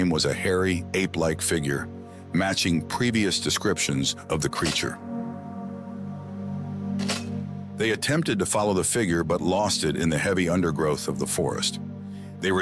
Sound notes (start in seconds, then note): 5.2 camera shuttering